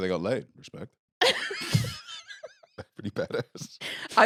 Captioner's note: laughs